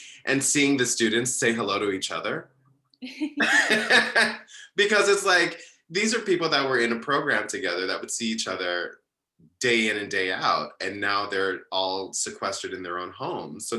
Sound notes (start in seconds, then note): 3.4 laughs